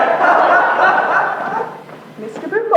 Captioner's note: voices laugh jeeringly